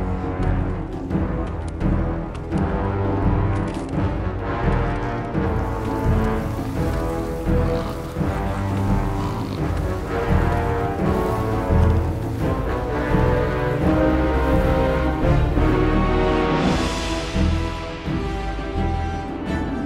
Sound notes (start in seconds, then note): 6.8 body being dragged